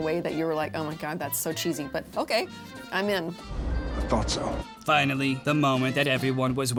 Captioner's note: none